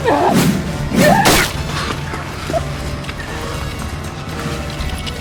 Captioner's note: Macy grunting; hatchet whooshing; hatchet thuds